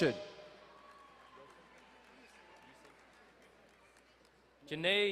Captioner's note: distant cheering